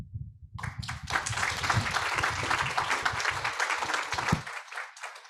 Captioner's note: audience applauds